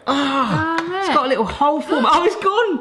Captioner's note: gasps